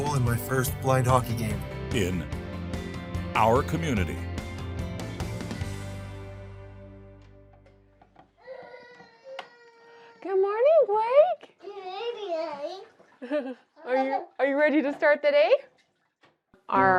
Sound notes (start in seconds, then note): 4.6 upbeat music; 8.4 child crying; 11.6 child babbling